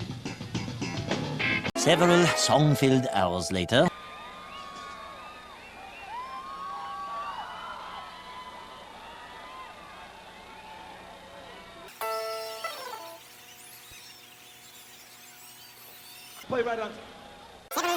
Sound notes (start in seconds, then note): 3.8 crowd cheering; 12.1 concert sounds sped up